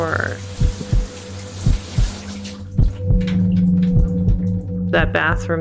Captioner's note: water showers; ominous music